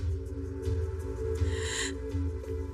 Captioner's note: ominous mususic; gaspsps